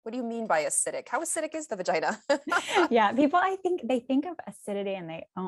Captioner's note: laughs